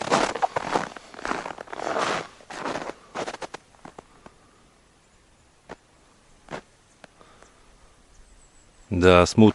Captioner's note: sound of footsteps in the snow